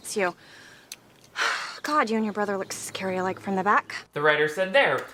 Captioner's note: sighs